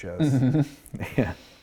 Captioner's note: laughing